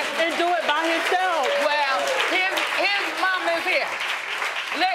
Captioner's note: audience applauding